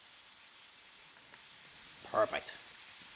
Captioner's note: pan sizzles